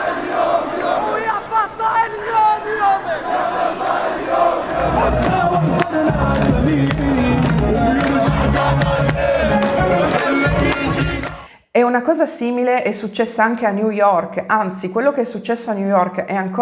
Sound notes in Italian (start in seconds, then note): 1.3 Applauso